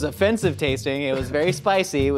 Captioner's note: laughs